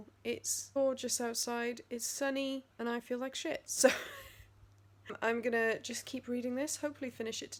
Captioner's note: laughs